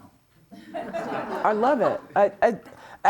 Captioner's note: audience laughing